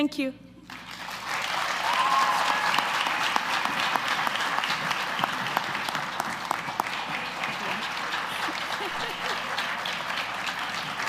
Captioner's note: applause